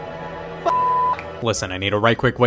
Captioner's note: beep